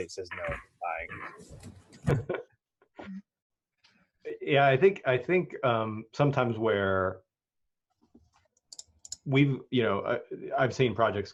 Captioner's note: chuckles